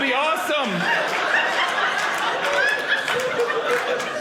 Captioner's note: audience laughing